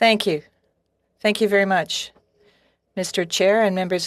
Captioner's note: speaking French